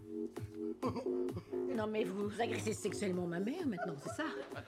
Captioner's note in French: rire